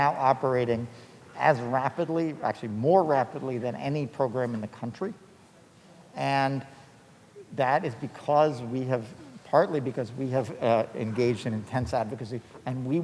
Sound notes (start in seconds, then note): none